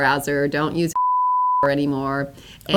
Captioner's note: beep